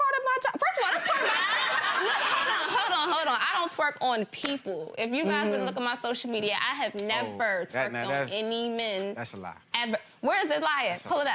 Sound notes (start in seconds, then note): 0.9 gallery laughs